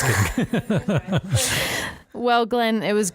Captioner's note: laughing